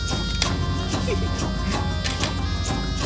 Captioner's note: surprised giggle